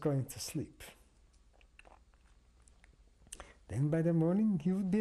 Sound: pauses for 3 seconds

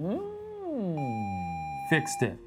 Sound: video game screen beeping

